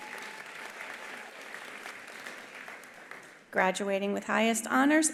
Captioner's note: attendees cheering; attendees applauding